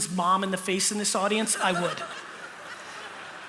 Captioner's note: laughter